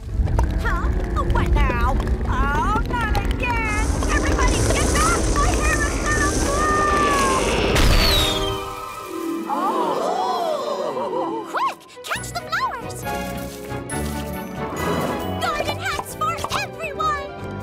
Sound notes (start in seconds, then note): 0.0 stretching, popping; 7.8 pop